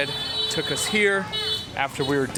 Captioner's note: horns honk loudly